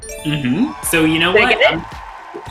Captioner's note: chime rings; crowd cheers